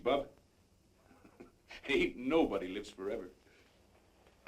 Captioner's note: laughs